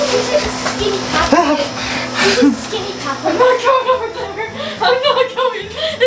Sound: kids talking and laughing

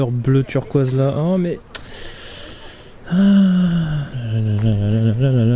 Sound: sigh

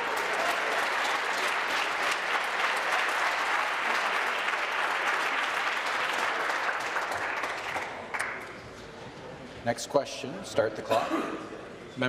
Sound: applause

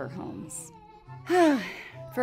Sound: sighs

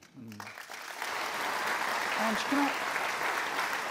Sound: applause

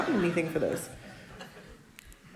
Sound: laughter

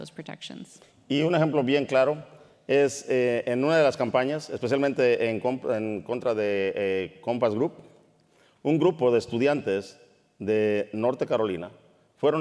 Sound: speaking in Spanish

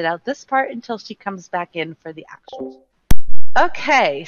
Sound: beeping

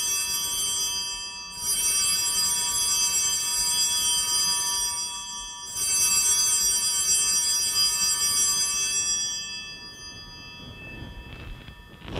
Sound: bellringing

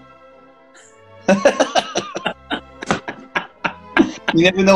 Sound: laughing

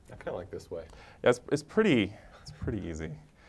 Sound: laugh

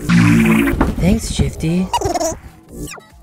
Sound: buddy cut boy giggling

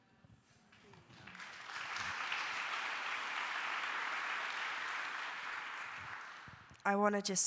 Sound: applause

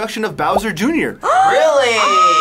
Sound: gasps

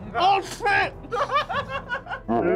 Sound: laughs

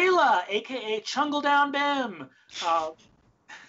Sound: laughs

